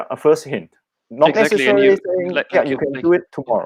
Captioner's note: chatter